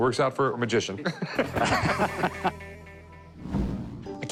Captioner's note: both laugh